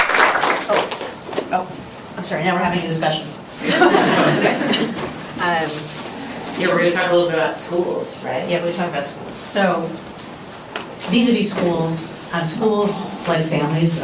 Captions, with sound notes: Oh. Oh, I'm sorry. Now we're having a discussion. [LAUGHTER] Yeah, we're going to talk a little bit about schools, right? Yeah, we talk about schools. So vis-a-vis schools, schools, like families,